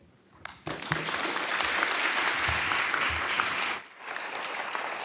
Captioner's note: audience applauding